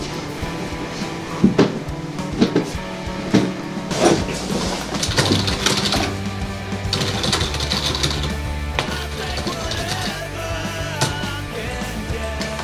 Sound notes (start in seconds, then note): 6.9 keyboard clicking